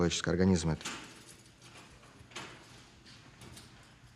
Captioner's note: lock rattling